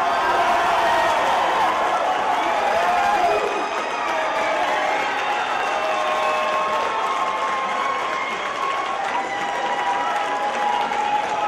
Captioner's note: applause